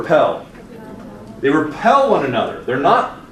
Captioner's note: students mumbling